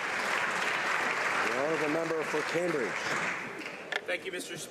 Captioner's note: applause